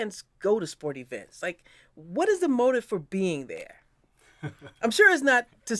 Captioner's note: laugh